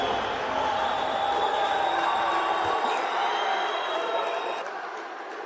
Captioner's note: crowd cheering